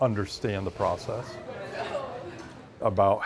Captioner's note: people chattering